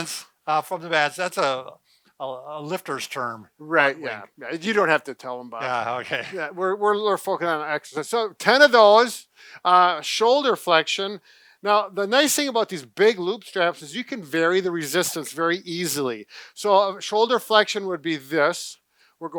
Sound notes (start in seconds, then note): 5.6 laughs